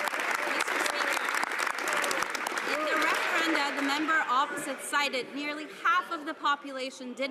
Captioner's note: some Applause